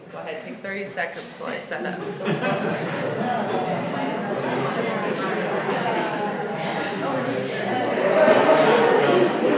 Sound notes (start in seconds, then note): 2.0 laughter